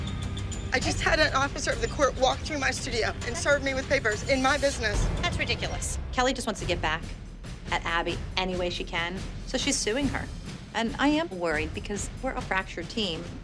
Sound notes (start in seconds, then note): none